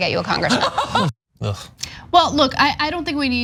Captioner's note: laugh